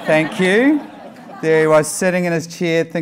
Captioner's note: laughing